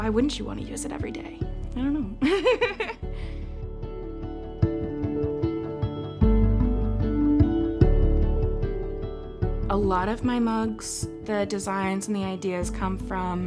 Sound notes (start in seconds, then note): 2.2 chuckles; 3.6 delicate music continues